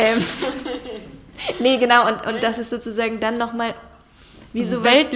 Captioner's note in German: lachen; lacht